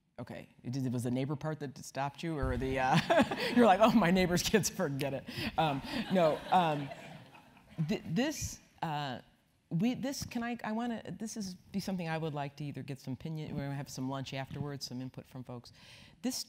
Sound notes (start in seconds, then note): 3.0 laugh; 5.5 laugh